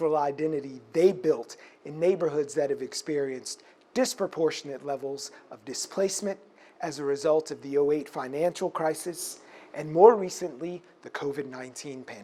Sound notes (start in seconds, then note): none